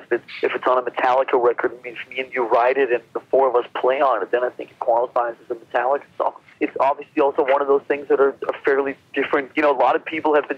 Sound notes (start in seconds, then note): none